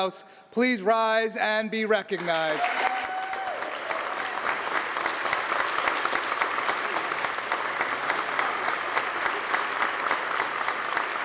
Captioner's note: applause